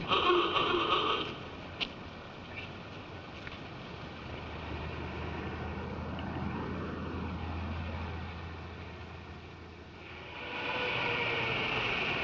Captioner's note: horn honks